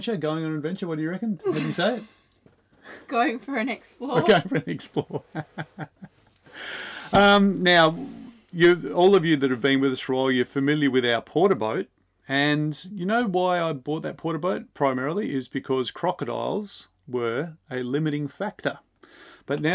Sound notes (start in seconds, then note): 5.7 chuckles